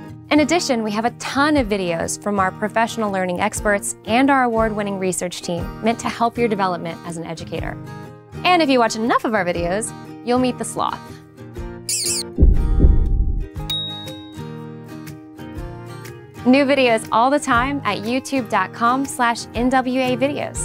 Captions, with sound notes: In addition, we have a ton of videos from our professional learning experts and our award-winning research team meant to help your development as an educator. And if you watch enough of our videos, you'll meet the sloth. [the sloth squeaks] New videos all the time at YouTube.com/NWEA videos.